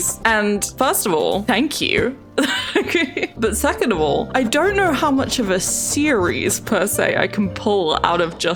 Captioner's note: laughs